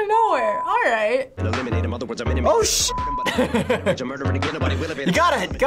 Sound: chuckles

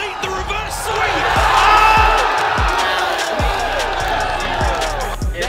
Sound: crowd cheering

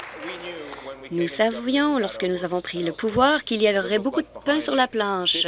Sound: applause

